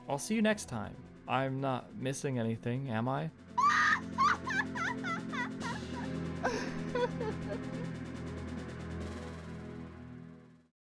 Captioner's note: Great Fairy laughs